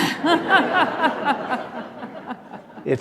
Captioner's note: laughter